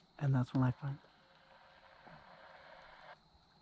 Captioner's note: walkie talkie static